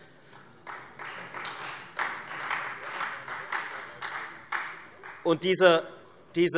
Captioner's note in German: Beifall Freie Demokraten und SPD